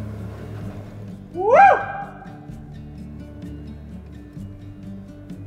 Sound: echoes

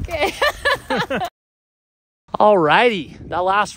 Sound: mom laughing

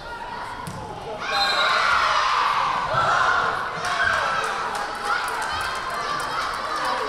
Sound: whistle blaring; crowd cheering

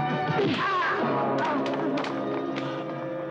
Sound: man grunts

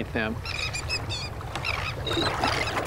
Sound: birds cry

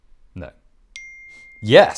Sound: ping

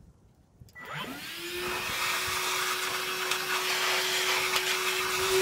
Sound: vacuum whirring

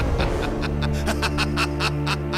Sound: laughter

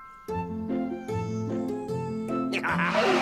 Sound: wolf laughs

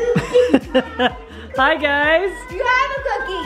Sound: laughs

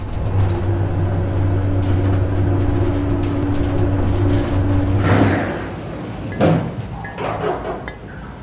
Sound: mechanical Noises

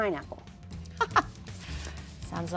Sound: laughs

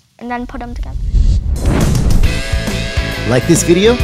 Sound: whooshing electronic effects

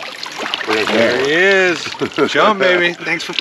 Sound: splashing; chuckling

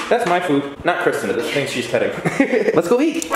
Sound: laughs

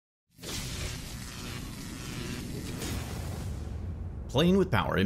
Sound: electricity crackles

